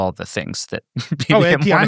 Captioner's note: laughs